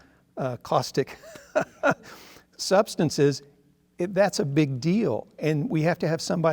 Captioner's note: laughs